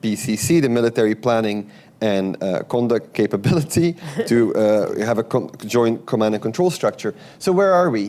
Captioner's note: laughs